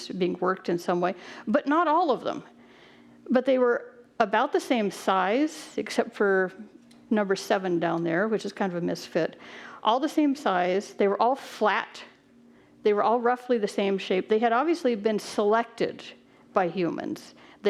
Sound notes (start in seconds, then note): none